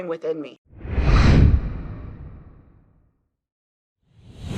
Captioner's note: air whooshing